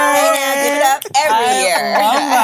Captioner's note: fingers clicking